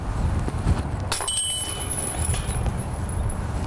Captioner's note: disc hitting chains